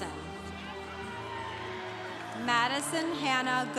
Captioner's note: congregation applauding